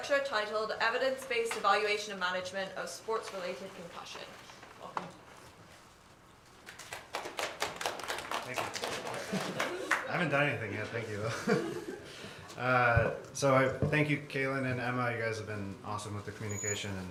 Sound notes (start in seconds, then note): 6.6 applause